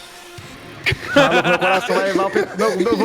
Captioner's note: laughs